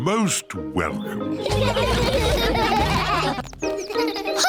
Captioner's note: all laugh